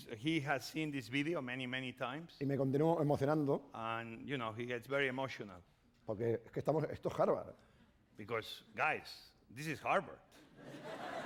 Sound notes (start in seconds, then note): 3.0 speaking spanish; 6.9 speaking spanish